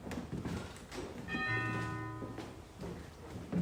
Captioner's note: door bell rings